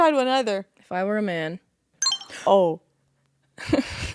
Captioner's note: electronic beep